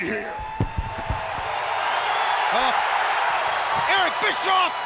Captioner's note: audience cheers